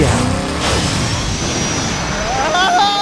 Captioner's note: engine revving up